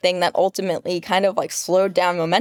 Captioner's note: none